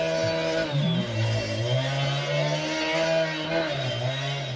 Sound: saw whirring

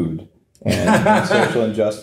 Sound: laughing

